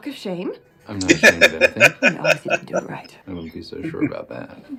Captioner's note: laughing